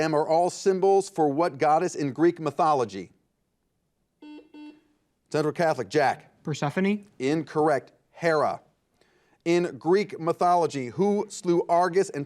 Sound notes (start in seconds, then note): 4.2 buzzer beeping